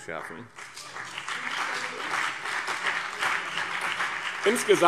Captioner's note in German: Beifall BÜNDNIS 90/DIE GRÜNEN und CDU